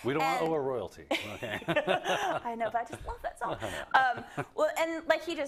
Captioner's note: laugh